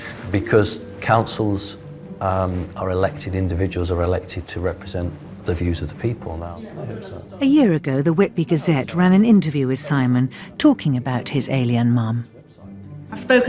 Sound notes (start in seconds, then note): 7.1 voiceover